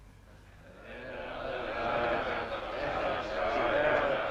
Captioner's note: chieftains chattering